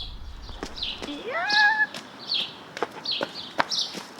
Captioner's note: excited yell